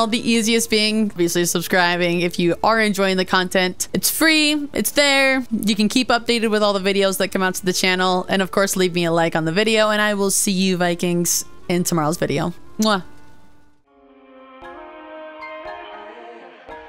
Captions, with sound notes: the easiest being basically subscribing. If you are enjoying the content, it's free, it's there. You can keep updated with all the videos that come out to the channel. And of course leave me a like on the video and I will see you Vikings in tomorrow's video.*kiss*